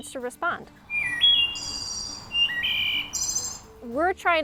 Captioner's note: high-pitch thrush call